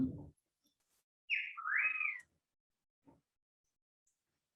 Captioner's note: bird chirping